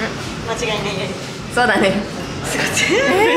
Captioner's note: laughs